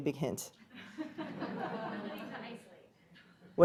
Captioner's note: class laughing